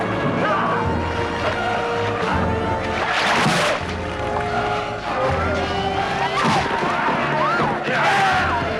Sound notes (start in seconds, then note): 3.2 rock slamming